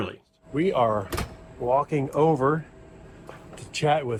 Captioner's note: door shuts